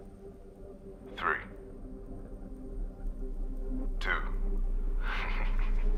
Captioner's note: suspenseful music; laughs